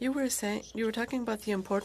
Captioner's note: speaking French